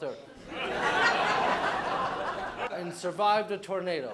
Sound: laughter

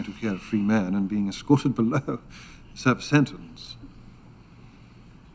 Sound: chuckles

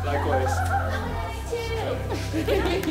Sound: chuckles

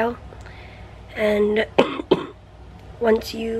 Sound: coughs

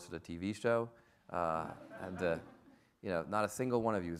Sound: audience laughs

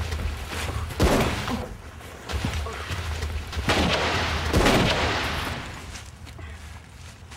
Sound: gunshots

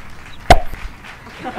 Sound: pop; laughter

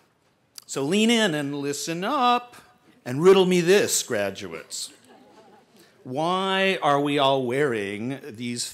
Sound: laughter

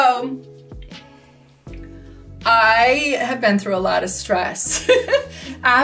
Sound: laughs

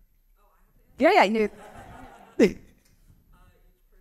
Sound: laughter

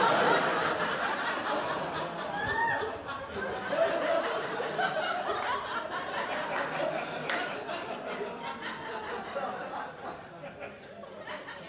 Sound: crowd laughs

